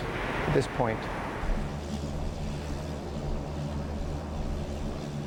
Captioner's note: plane engine rumbling